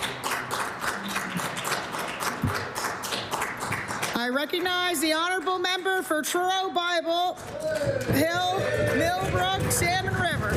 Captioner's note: some Applause